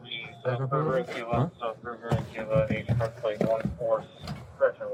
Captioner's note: radio chatter